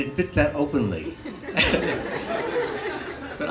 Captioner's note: laughter